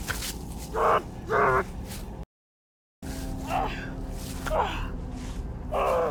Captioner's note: groaning